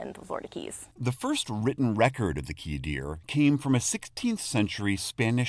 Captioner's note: voice-over